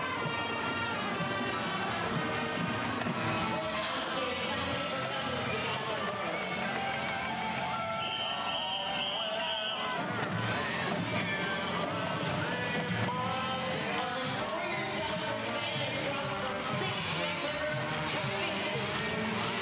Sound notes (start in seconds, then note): 4.7 band music; 10.3 whistles; 14.1 band music